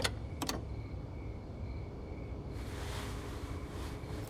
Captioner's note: none